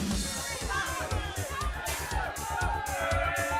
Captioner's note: crowd cheering